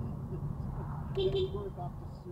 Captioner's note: beep beep